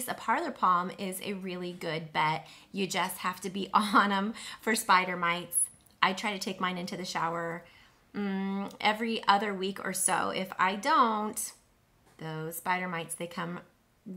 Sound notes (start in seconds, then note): none